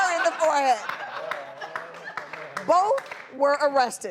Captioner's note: audience laughing